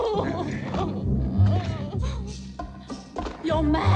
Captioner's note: sobbing